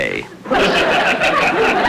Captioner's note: audience Laughing